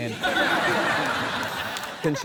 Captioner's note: laughter